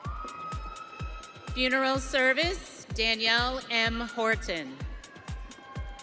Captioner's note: audience cheering